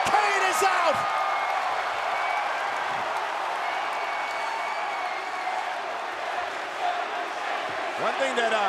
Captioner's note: applause